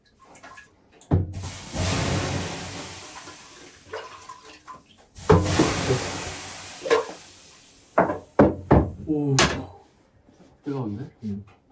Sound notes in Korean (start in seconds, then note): 1.3 치이이익